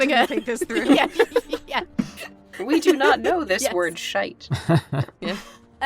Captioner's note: imitating Theseus